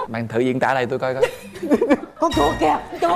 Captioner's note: laughing